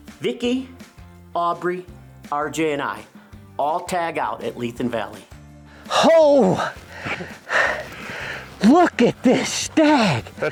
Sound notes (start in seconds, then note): 6.5 breathing heavily